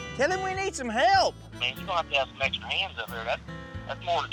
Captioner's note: on speakerphone